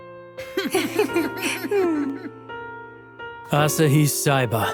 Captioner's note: Tamako laughing